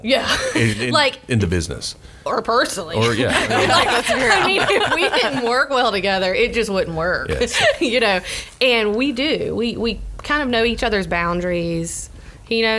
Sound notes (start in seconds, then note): 3.0 laughs